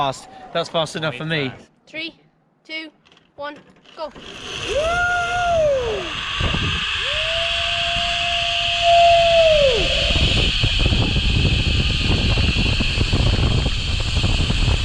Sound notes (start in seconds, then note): 6.6 whirring; 10.9 wind turbulence